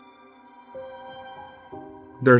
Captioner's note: none